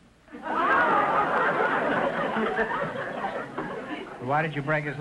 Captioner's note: audience laughter